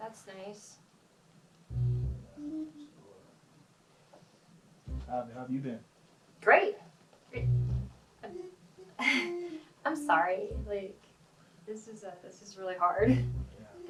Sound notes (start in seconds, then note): 8.8 chuckles